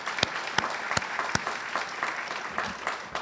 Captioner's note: audience cheers and applauds